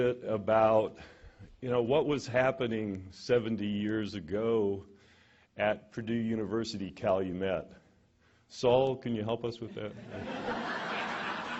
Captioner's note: laughter